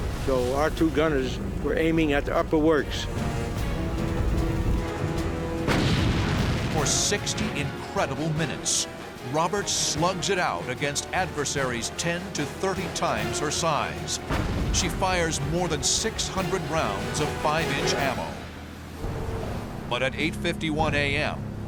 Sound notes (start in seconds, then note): 5.6 explosion; 14.2 explosion